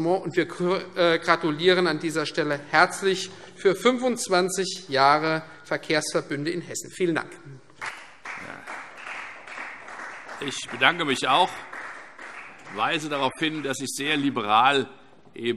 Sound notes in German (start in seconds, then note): 7.7 Beifall Freie Demokraten